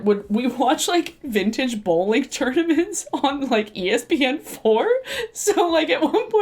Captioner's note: chuckles